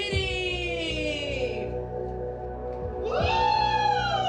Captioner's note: cheering